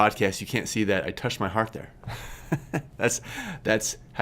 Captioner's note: laughs